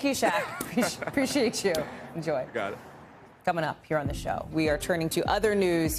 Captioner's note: laughter